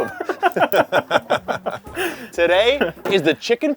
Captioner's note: both laughing